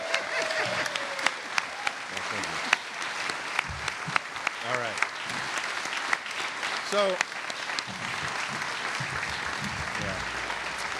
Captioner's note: cheers and applause